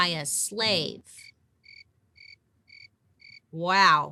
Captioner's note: crickets chirping